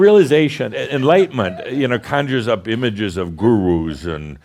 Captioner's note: chuckling; some chuckles